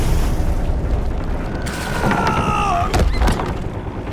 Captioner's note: scream increases in volume